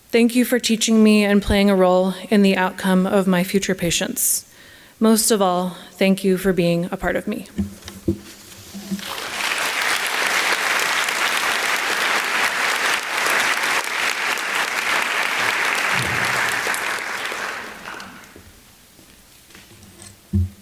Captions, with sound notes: Thank you for teaching me and playing a role in the outcome of my future patients. Most of all, thank you for being a part of me. [ Applause ]